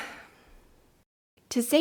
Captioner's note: heavy sigh